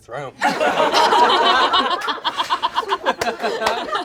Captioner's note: all laugh